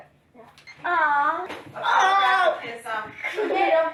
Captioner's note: groaning loudly; laughing